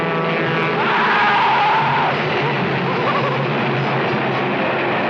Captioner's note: man screaming